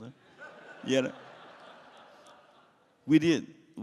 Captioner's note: laughs